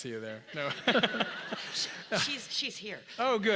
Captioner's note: laugh